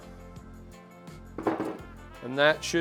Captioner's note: tool hits table